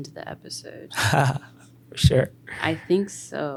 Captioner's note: chuckles